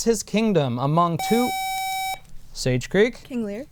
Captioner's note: buzzer